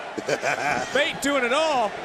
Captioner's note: laughter